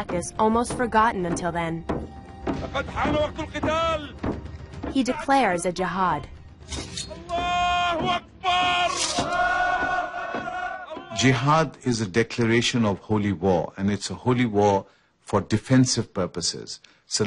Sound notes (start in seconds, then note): 7.3 yells in native language; 9.3 men yell in native language